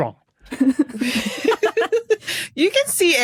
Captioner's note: guests giggling